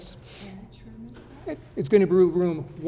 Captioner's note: speaking faintly